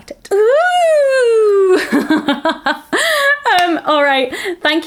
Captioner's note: laughs